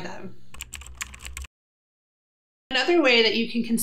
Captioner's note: keyboard clicking